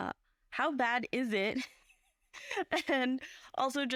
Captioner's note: laughs